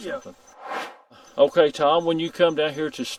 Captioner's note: air swooshes